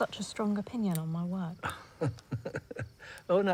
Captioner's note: Oscar chuckles